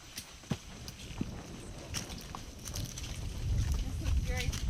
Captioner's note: thunder roaring